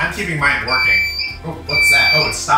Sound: machine beeps

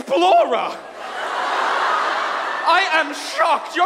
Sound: audience laughs

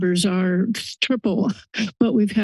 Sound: laughs

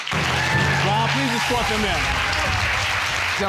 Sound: audience applauding

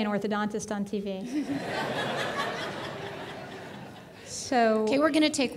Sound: audience laughing

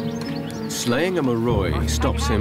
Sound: speaking in foreign language

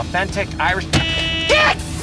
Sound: honking

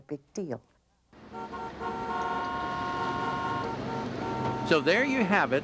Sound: horns honking

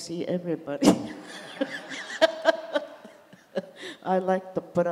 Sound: laughs

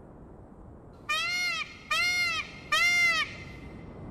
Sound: peacock cries

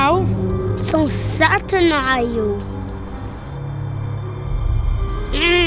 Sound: grunts

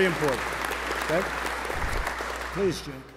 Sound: applause

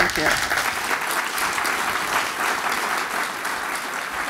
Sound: audience applauds

